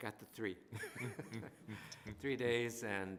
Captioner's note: laughter